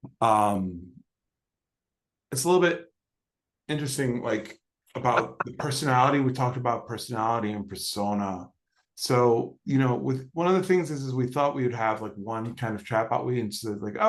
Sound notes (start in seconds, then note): 5.0 laughs